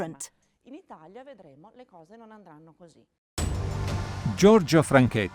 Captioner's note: speaking in foreign language